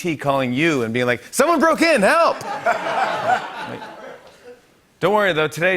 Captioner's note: laughter